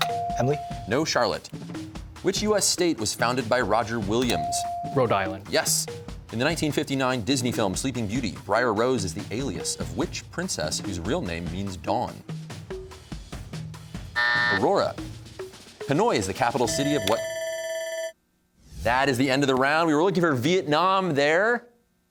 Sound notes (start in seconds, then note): 14.1 buzzer sounds; 16.6 bell rings